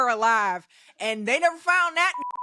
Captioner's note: beep